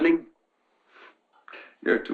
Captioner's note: chuckles